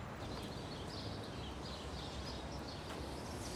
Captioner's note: birds and city background noise